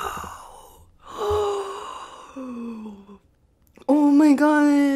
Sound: gasping

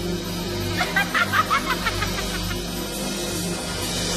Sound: singer laughs

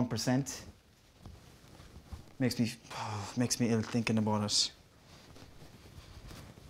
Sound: sighs

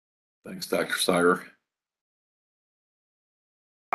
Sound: A pause

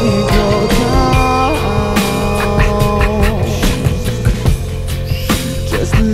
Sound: scat whispering

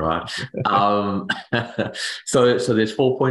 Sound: laughs

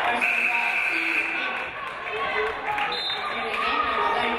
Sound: game buzzer buzzes; referee blows whistle

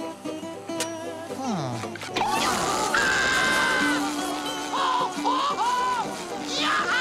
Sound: screaming

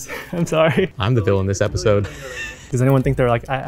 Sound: laughing

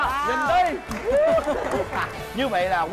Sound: laughing

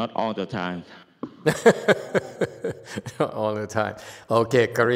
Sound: laughs

